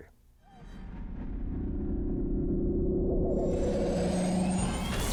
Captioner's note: spaceship vibrating